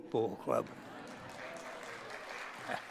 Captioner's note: applause